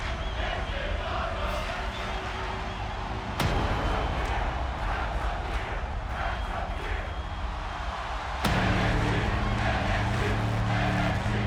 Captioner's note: fans chanting